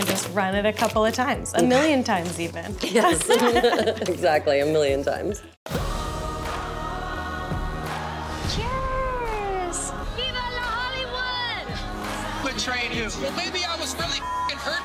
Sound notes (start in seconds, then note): 2.8 laughs; 6.1 laughs